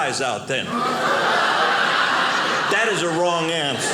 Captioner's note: audience laughing